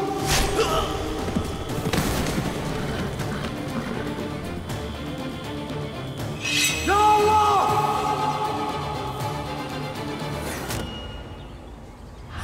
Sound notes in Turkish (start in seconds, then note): 0.1 Ok saplanma sesi; 6.4 Kılıç çekme sesi